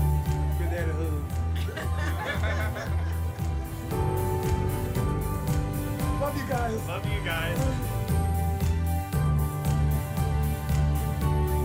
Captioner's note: family laughs